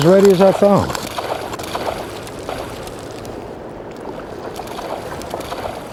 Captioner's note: lots of splashing